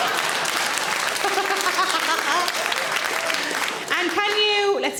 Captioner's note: audience laughing; audience applauds; Sarah laughing